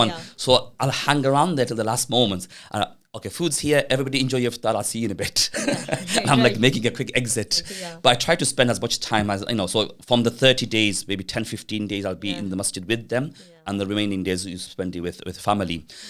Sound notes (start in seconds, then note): 5.4 laughing